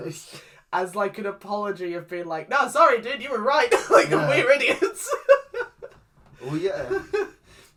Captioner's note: laughs